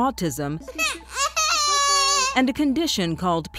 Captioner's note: crying